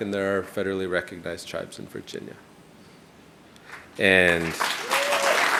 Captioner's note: audience applauding